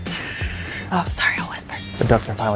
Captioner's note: whispering